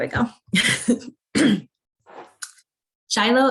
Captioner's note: laughs